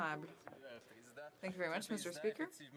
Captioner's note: speaking French